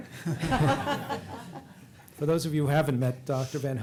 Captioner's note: laughter